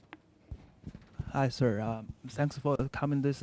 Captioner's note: voiceover